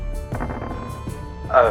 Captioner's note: rattling